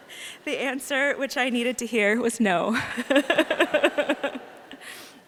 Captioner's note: laughing